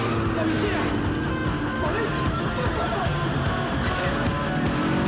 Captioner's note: man speaks foreign language